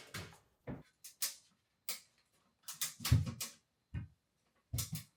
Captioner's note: item clicking